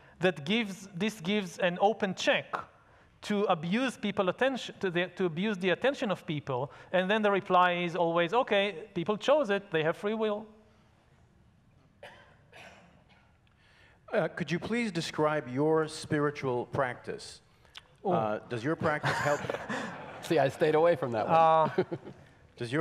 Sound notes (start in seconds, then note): 18.9 laughs; 19.0 audience laughs